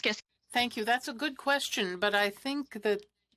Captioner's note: speaking French